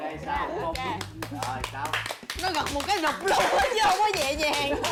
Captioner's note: clap